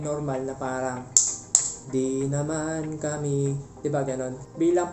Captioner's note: tap Tap